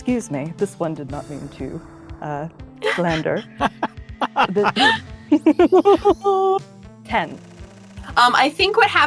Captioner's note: EVERYONE laughs